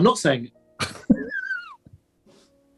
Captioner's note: giggling